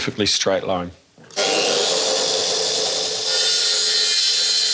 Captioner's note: track saw sound